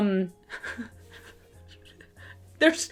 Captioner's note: giggling